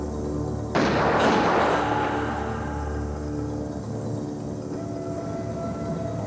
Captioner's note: gun firing; screaming